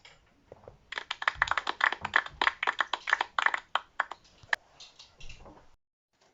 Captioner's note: concerned applause and teeth gnashing